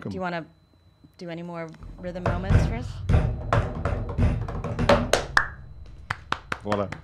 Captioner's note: bangs table; claps